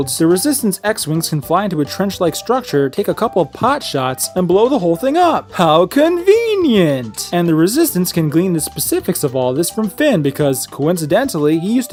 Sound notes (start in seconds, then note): none